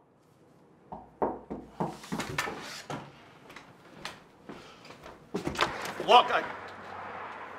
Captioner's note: more knocking at door; more knocking still